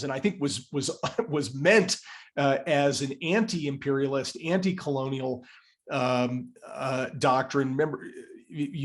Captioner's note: laugh